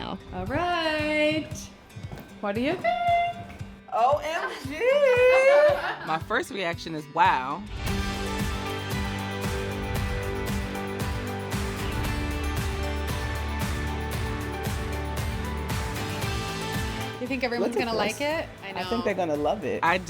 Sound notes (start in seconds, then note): 4.9 all laughing; 7.8 upbeat music